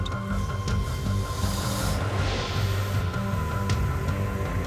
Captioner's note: snake hisses